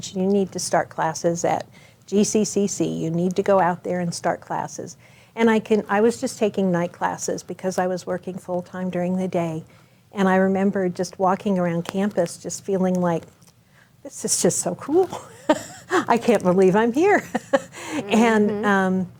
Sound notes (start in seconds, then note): 15.1 chuckles; 17.1 laughs